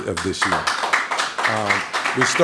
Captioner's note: applause